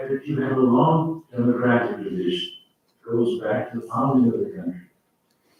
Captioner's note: faintly speaking